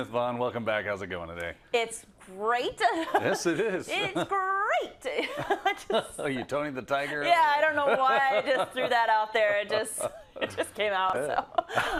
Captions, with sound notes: Vonne, welcome back, how's it going today? -It's great. [LAUGH] -Yes it is. -It's great. [LAUGH] -Are you Tony the Tiger? -Yeah, I don't know why I just threw that out there, I just, it just came out, so.